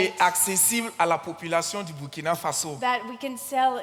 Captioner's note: continues in French